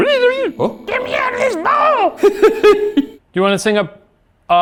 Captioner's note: laughs